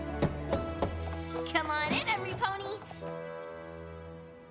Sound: knock on door

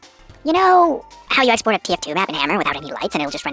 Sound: speaks quickly

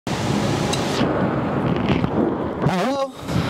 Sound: waves crashing in the background

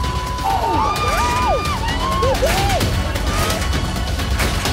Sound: cheering

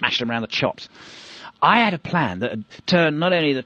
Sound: breath in

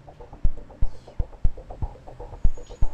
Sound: whispering

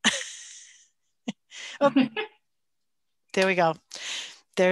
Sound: chuckling

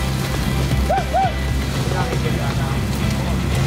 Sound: man cheering; upbeat music

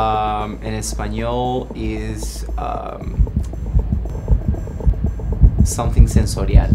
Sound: speaking in foreign language

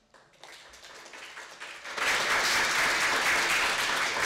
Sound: audience applauding

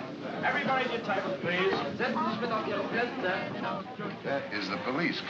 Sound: speaks in German

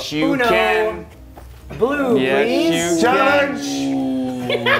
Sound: laugh

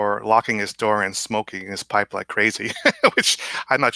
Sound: laughs

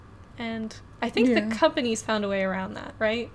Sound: none

